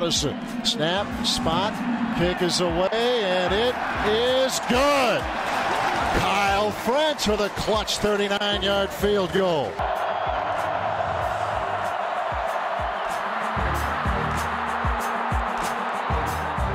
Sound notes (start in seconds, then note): 9.4 cheering